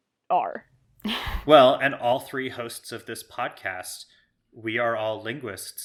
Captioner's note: laughs